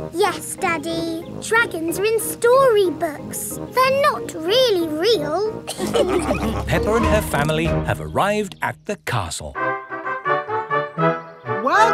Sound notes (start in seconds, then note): 5.7 all laughing; 9.5 fanfare playing